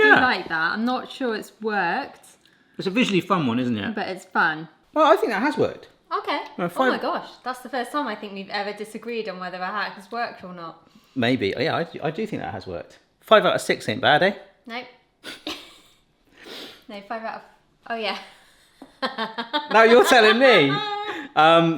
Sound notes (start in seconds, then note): 16.6 sniggers; 18.0 she laughs